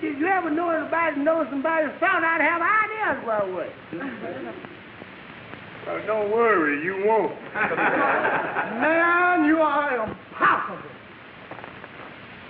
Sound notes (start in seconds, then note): 4.3 audience laughing; 7.5 audience laughing